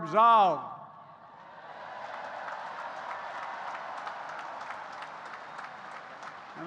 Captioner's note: applause